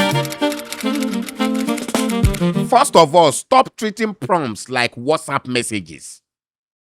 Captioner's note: keyboard clacking; upbeat music